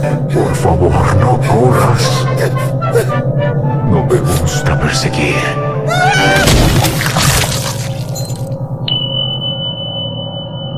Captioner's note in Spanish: Grito